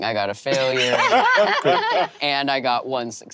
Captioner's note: Emily and Lou laughing